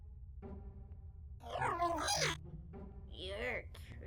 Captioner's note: robot makes sounds